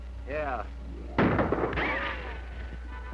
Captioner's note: gunshot